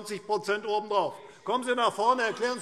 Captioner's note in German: Zurufe SPD